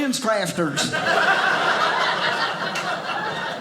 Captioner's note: audience laughing